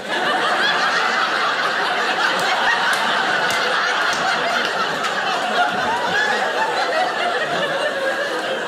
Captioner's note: audience laughing